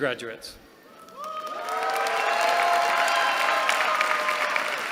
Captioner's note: cheering